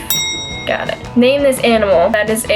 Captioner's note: bell ring